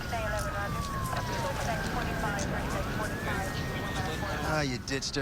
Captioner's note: siren blaring in distance, indistinct radio chatter